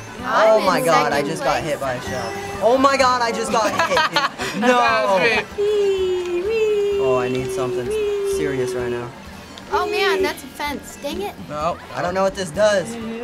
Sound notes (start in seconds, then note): 3.5 laughs